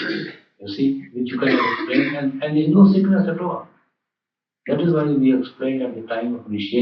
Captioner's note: laughter